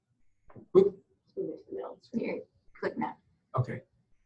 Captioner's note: murmurs